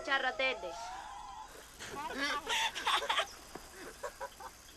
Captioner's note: laughing